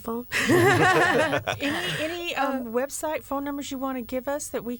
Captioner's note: laughter